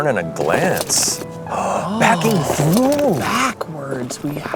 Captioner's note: gasping